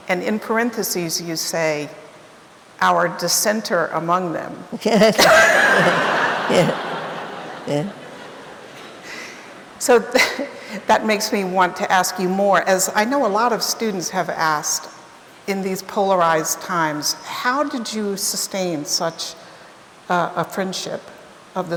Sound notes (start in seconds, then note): 4.9 laughs; 6.9 audience laughing